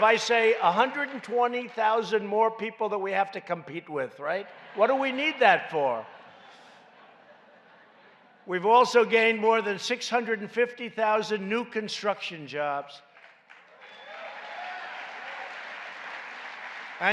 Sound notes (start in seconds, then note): 4.4 laughter; 13.0 applause